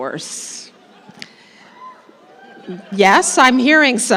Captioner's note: laughter